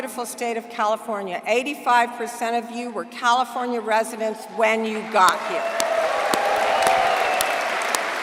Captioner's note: applause